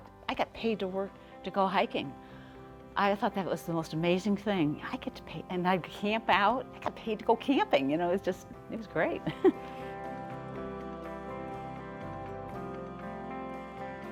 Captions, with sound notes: I got paid to go hiking! I thought that was the most amazing thing. And I'd camp out, I got paid to go camping! You now it's just, it's great. (laughing) (soft, uplifting music)